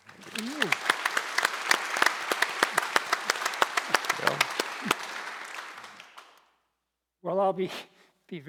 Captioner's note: audience applauding